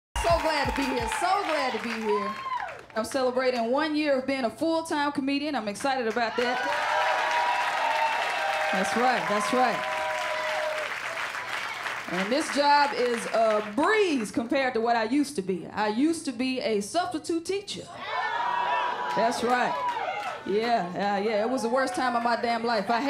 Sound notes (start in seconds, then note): 6.9 cheers and applause